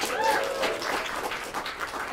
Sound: applause

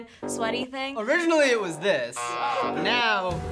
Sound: buzzer rings

